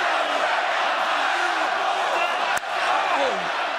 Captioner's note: crowd cheering